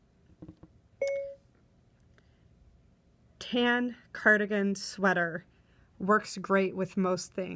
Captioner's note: phone dings